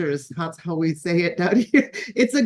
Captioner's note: laughs